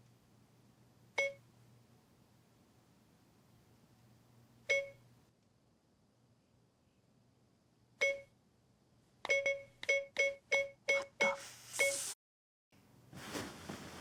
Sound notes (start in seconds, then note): 1.0 phone beeping; 4.7 phone beeping; 9.3 phone beeping repeatedly